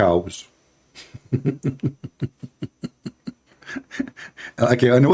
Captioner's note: Ketawa